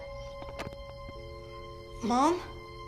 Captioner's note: dial tone humming